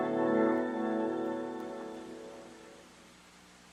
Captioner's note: none